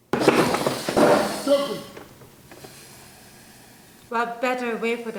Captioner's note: man speaking foreign language